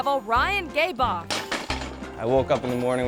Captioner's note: bike thuds